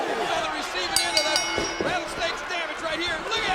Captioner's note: bell rings